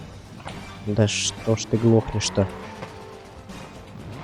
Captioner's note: car